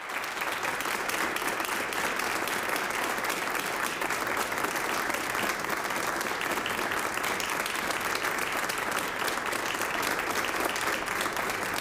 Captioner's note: applause